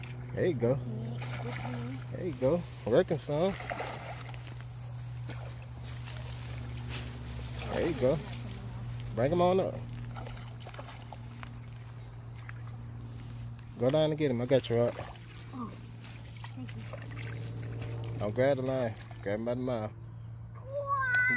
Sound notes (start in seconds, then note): 3.2 water splashes